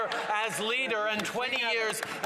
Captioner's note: some Applause